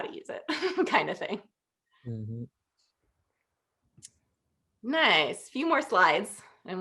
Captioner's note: laughter